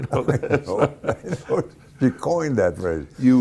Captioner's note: laughing